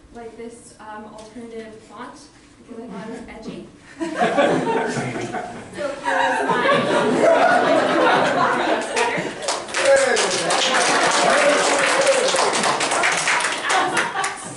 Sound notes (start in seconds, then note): 5.8 loud laughter; 8.7 applause